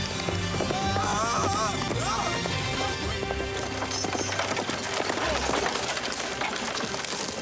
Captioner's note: suspenseful music; Nick wailing